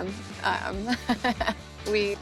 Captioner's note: chuckles